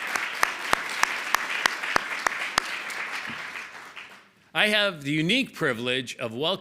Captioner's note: applause